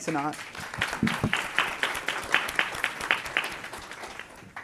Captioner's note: applause